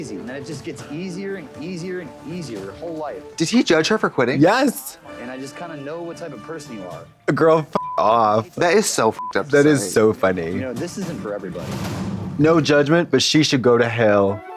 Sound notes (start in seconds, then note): 7.7 beep; 14.3 playful music